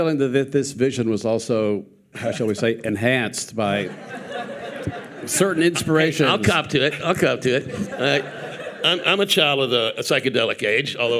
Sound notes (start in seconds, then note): 3.7 audience laughing